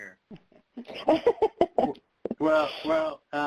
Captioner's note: laughs